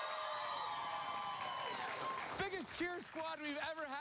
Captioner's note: cheers and applause